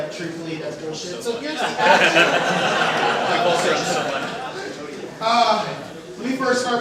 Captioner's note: drown out by laughing